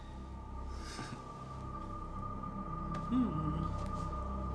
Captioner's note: chuckles